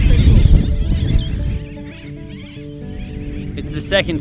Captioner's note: birds chirping